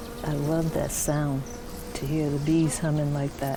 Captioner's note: bees humming